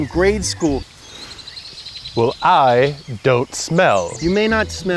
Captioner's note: sniffing